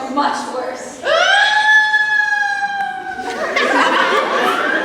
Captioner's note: crimvael screams